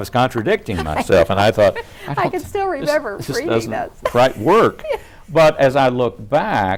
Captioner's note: laughs